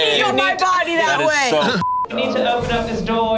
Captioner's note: beep